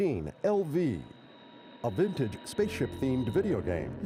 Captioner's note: static